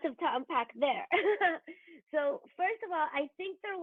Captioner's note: chuckles